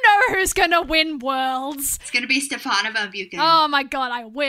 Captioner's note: laughs; sarcastically